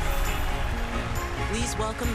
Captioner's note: cheering and applause